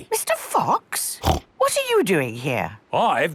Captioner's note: snorts